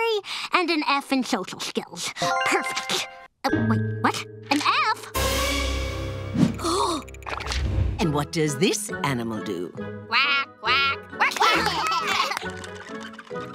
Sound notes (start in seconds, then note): 5.9 gasping; 11.3 giggling